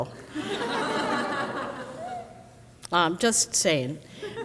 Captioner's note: crowd laughs